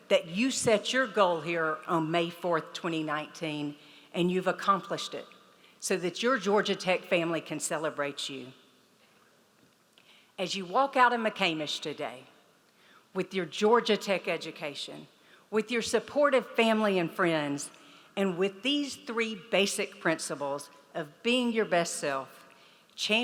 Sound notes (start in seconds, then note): none